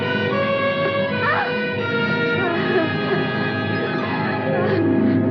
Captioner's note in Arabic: يتنفس بشدة